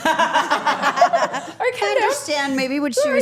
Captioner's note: everyone laughing